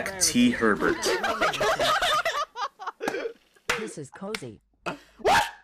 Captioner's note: retarded laughter